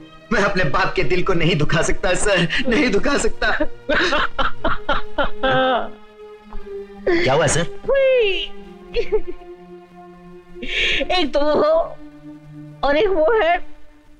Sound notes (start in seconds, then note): 3.9 crying; 7.0 sobbing